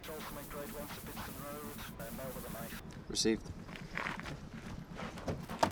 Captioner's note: call over radio - man with a knife